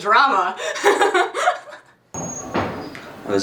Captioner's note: laughs